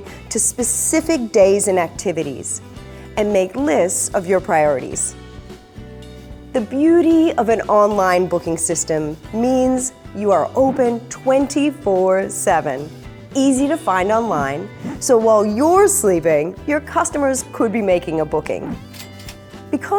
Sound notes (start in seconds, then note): 11.9 air whooshes; 18.7 air whooshes; 18.8 cash register clicks